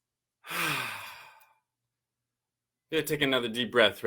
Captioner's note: sighs